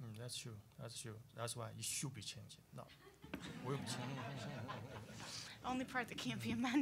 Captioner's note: audience laughing